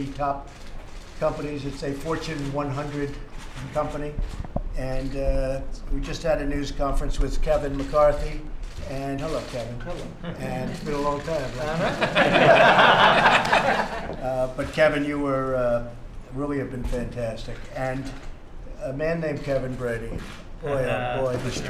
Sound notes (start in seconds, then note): 11.6 laughter